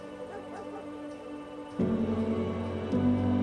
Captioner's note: dog barking